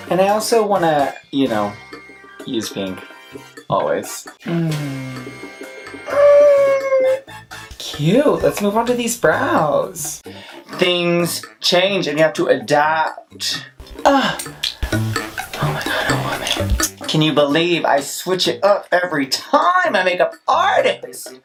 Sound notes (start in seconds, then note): 14.4 whispered